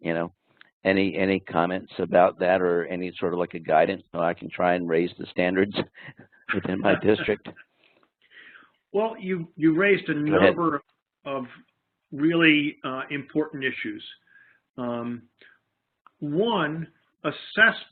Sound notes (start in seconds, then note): 5.8 laughing